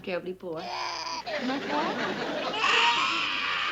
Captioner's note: cries